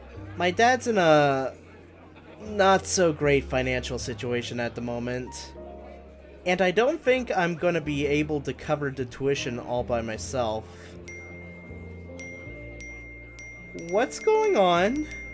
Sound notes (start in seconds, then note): 11.1 multiple notifications